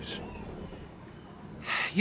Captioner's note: sighs